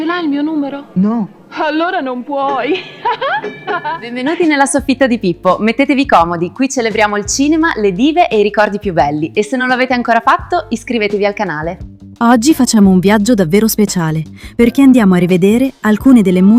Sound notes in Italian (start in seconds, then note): 2.7 risate